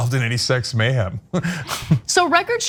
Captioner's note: laugh